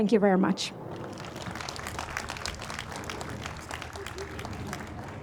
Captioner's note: audience applauds